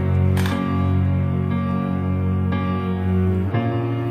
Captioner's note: camera flashes